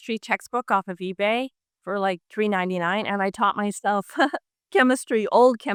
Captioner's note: laughs